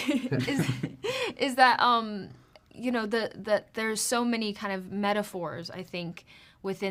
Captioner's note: laughs